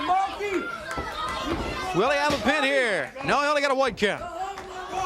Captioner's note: crowd cheering